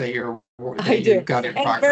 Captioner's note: chuckling